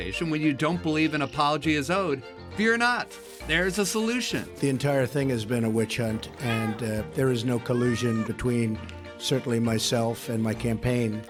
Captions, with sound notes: when you don't believe an apology is owed, fear not -- there's a solution. -The entire thing has been a witch hunt. [ Kitten meowing ] And there is no collusion between certainly myself and my campaign.